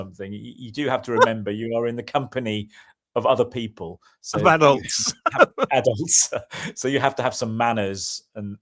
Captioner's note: laughter